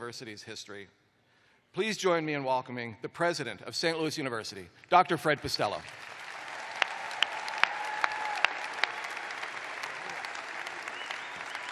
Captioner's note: cheers and applause